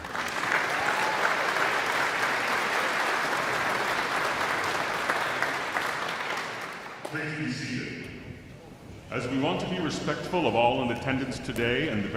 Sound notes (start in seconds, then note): 0.0 audience cheering; 0.2 all clapping